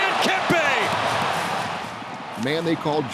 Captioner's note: crowd cheering